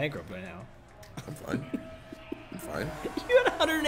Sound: laugh

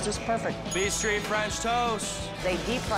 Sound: bell dinging

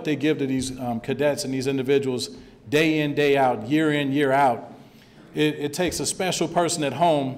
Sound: none

